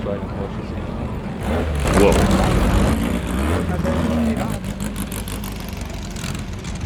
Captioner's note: car engine roaring